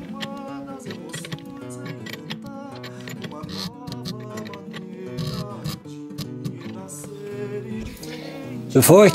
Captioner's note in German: wieder Schraubgeräusche